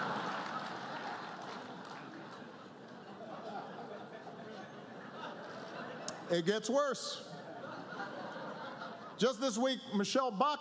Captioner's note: laughter